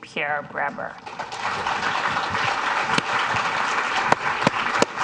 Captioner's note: audience applauds